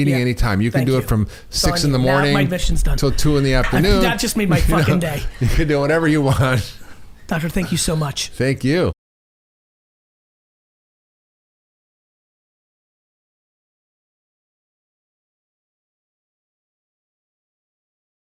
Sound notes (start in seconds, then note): 6.8 chuckles